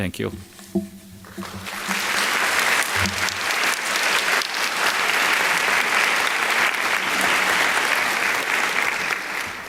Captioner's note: applause